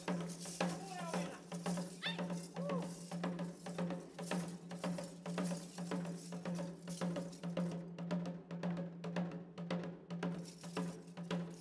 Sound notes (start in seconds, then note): 2.0 woman shouts; 4.9 drum beating and metal clinking; 8.3 drum beating